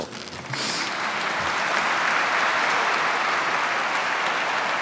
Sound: audience clapping

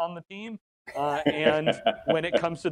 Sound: laughing

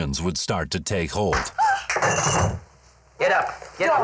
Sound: smack; woman gasps

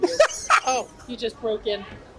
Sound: laughs

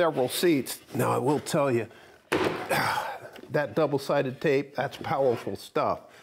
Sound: exhales

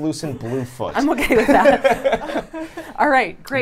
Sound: laughs; chuckles; laughs

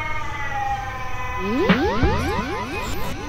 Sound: beam up sound fx

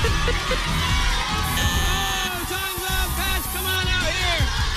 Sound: buzzer sounds

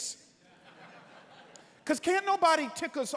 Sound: congregants laughing

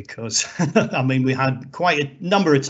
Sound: laughs

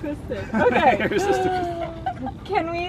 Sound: laughs

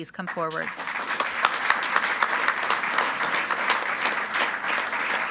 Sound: group applauding

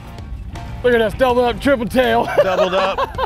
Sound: laughs

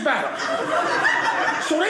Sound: audience laughing

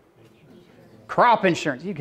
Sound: murmuring

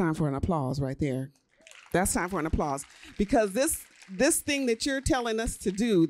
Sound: applause

